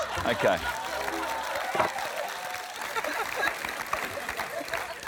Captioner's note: applause